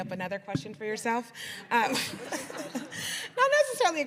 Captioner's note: laughter